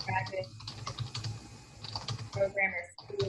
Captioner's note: typing